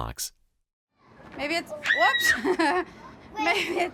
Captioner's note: laughs